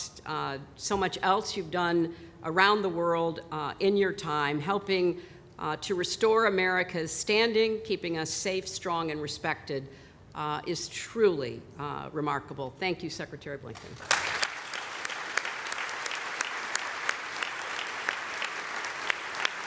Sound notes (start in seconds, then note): 17.6 applause